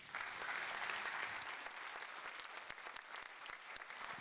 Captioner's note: audience applauds